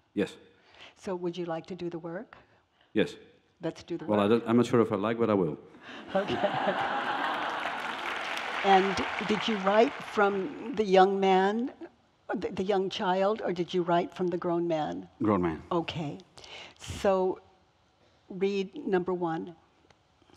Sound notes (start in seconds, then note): 5.9 audience laughs